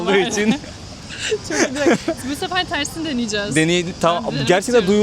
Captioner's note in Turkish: kahkaha